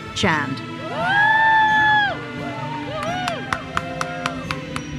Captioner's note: attendees cheering; uplifting music continues